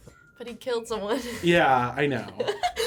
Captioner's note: laughs